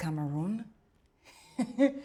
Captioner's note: soft chuckles